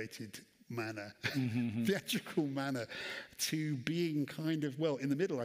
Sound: laughs

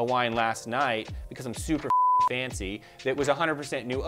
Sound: beep

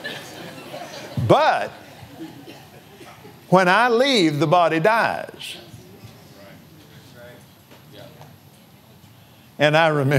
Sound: laughs

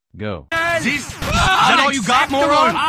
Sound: contestants clamoring

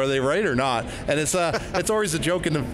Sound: laughing

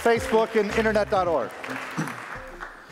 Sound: applause

